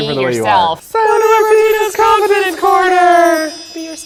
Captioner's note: sparkling sound